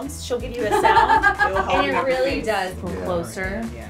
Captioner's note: laughs